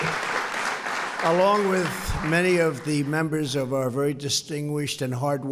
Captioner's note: applause